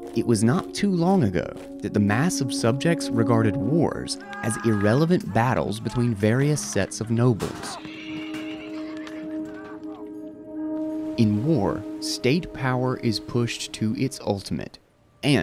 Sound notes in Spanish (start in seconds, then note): 7.6 hombres gritando